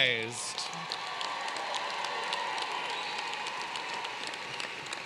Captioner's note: applause